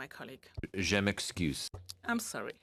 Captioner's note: speaking French